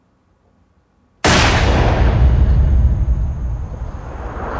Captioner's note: booming